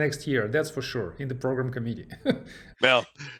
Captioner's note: laughs